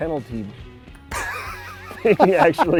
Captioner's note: laughing